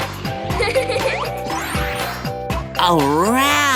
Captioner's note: giggling